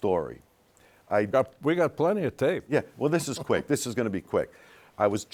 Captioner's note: laughs